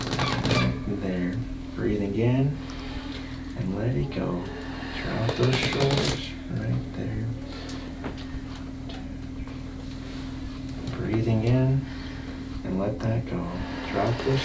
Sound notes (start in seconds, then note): 5.1 cracking noises